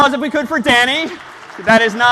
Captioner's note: applause